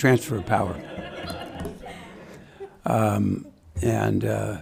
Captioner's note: audience laughing